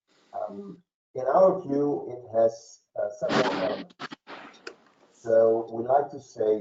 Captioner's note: mic cracking